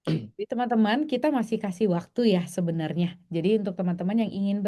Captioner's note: berdehem